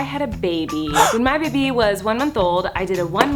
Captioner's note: gasping